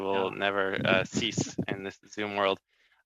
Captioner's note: chuckles